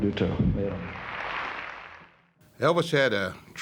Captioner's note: audience applauding